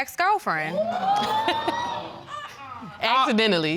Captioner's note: audience exclaiming